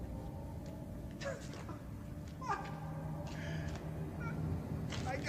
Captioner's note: man laughing